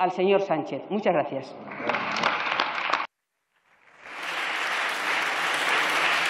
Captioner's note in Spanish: Aplausos